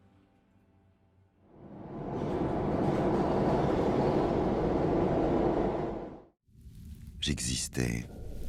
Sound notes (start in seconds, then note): 1.5 wheels roar